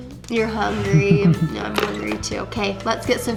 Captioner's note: laughing